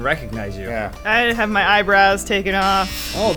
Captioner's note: clippers buzzing